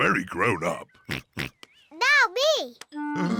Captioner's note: oinks